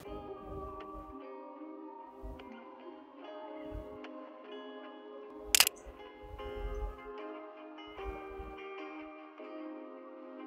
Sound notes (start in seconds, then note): 0.1 soft music; 5.5 camera click